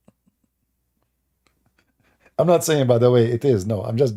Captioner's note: Ketawa